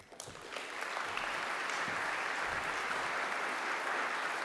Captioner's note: applause